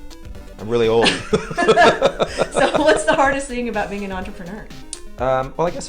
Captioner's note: laughter